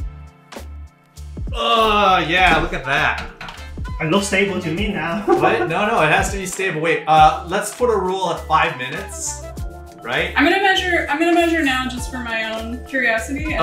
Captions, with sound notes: Ah, yeah, look at that. - It looks stable to me now. (laughs) - Wait, no, no, it has to be stable, wait. Let's put a rule of five minutes, right? - I'm gonna measure now just for my own curiosity.